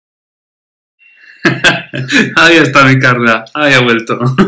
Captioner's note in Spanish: ríe; ríe